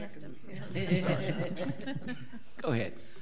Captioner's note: audience laughing